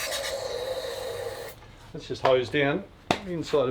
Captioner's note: spraying